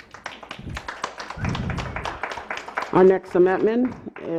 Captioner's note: clapping